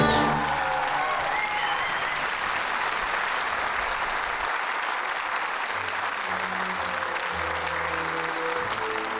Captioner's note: applause; credits music plays